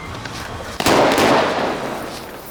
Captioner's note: gunshots